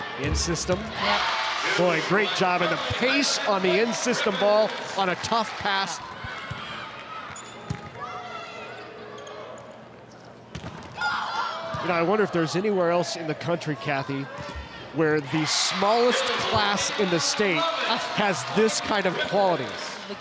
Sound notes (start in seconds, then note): 6.5 ball thumping; 7.9 players shouting indistinctly; 10.6 ball thumping